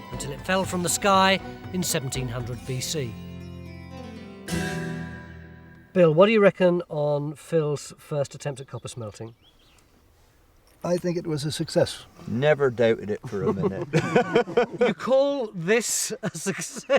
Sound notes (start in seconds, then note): 13.0 laughs